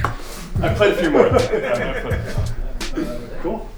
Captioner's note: laughs